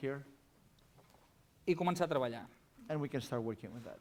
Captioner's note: non-english speech